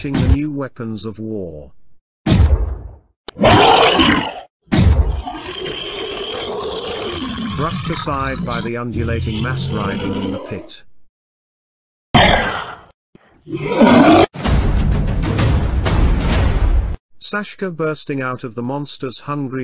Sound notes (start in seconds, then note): 2.3 gunfire / Roaring; 10.7 roaring; 14.4 war Drums